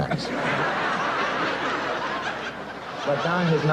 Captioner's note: audience laughs